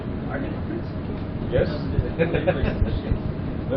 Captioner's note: laughing